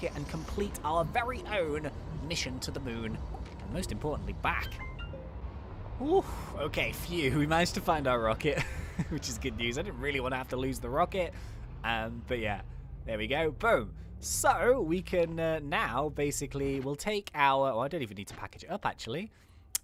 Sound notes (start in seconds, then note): 8.5 laughing